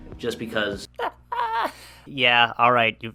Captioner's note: laughs